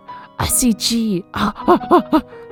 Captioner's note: hyperventilating